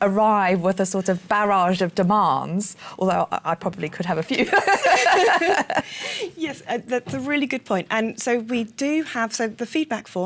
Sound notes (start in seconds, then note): 4.4 laughter